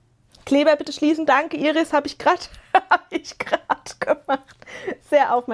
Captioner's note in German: gelächter